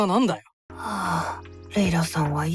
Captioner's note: sigh